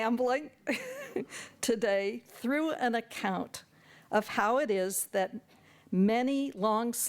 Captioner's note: chuckles